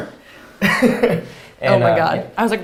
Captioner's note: laughs